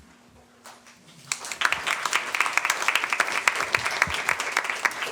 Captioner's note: applause